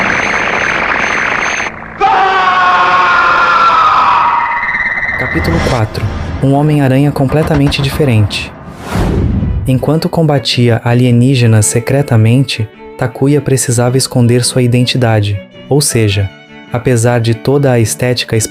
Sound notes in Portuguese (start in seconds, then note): 4.1 grito